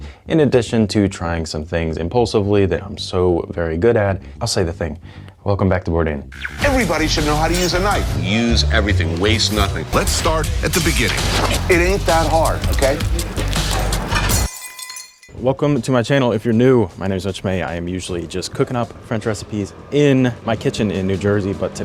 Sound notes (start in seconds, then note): 13.3 glass shattering; 13.3 thrilling music